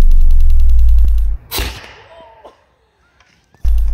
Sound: potato gun firing

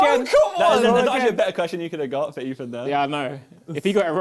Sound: crowd mumbling

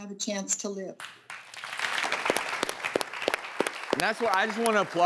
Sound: crowd applauding

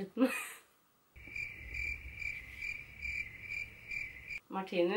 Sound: crickets

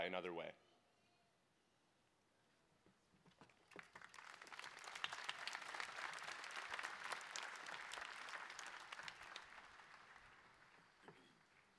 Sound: applause

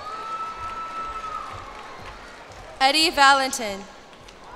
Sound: cheers and applause

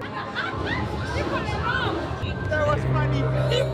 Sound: Spanish

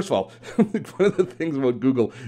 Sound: laughing

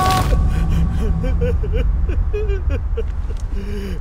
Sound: Ranga sobbing

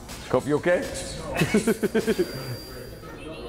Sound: laugh

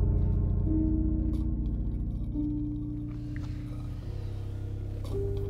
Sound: unsettling music continues; liquid slurping

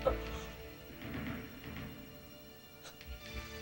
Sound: paulina gasps

